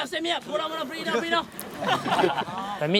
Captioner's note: laughter